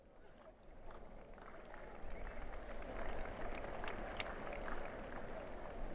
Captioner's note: applause